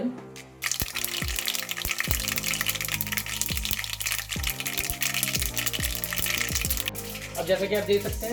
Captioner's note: cracklinggggggggggggggggggg